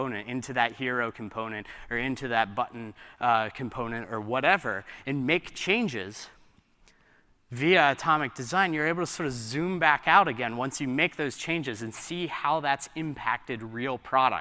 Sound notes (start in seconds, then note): none